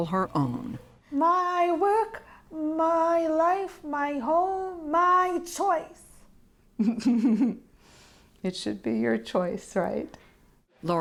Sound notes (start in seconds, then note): 6.8 laughter